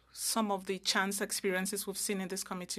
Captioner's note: speaking French